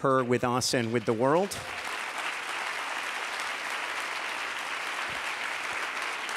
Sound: applause

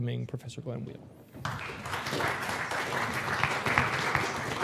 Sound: applause

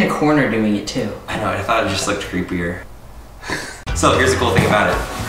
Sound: laughs

